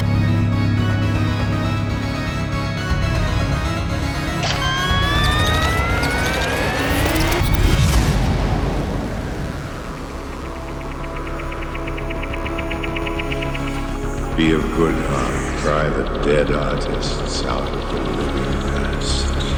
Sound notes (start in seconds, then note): 4.7 rising electronic whine; 7.7 loud echoing whoosh